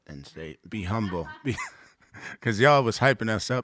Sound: laughing

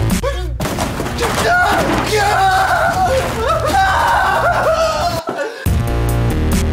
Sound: yells

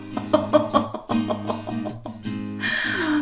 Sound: laughing

